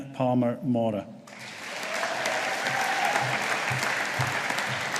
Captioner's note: audience applauding